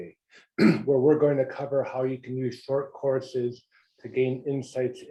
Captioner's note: cough